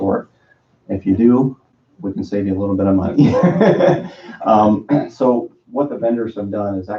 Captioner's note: laughs